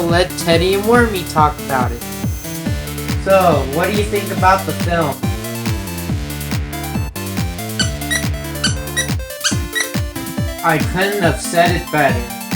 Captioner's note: squeak squeak squeak